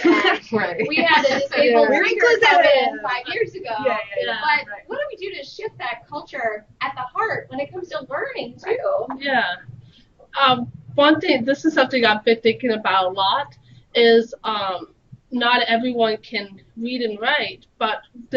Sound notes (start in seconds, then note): 1.3 all chatting